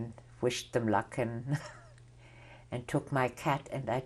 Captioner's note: laughs